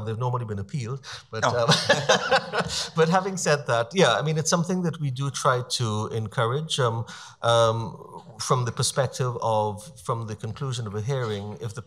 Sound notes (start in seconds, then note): 1.1 laughing